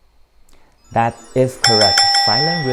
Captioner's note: bell rings